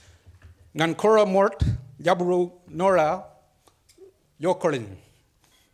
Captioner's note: speaks foreign language